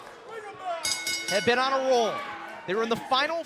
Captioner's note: bell